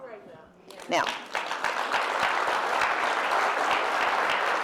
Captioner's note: applause